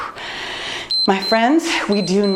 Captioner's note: timer beeps